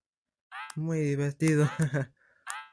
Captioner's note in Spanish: sarcasmo